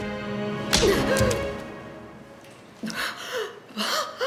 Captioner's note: slap